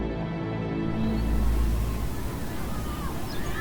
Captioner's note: kids playing